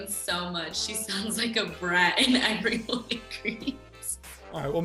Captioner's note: chuckles